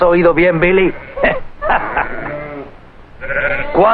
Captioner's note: laughing; Jeb laughing